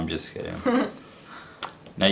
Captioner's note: laughs